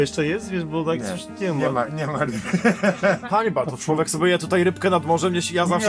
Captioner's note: laughter